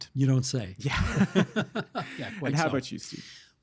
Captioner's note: laughing